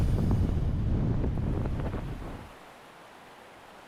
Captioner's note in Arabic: هدير الرياح